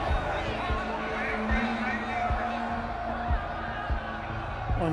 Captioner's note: crowd clamoring